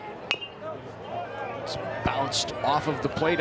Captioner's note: bat dings